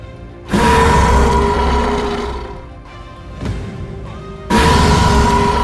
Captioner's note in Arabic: موسيقى مكثفة; العقرب يزأر; موسيقى مكثفة